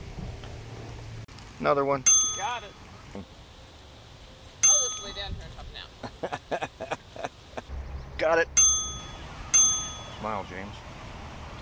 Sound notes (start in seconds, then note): 2.0 ding; 4.6 ding; 5.9 chuckles; 9.5 ding